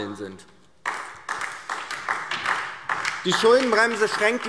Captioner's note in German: Beifall DIE LINKE